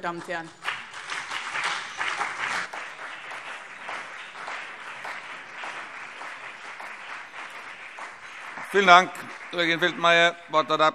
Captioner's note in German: Beifall BÜNDNIS 90/DIE GRÜNEN und vereinzelt CDU